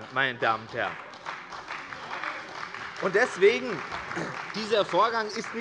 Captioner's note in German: Beifall bei der CDU - Zurufe von der SPD und der LINKEN